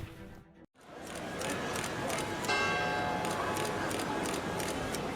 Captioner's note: camera clicking